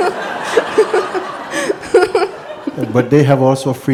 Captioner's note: laughter; questioner laughs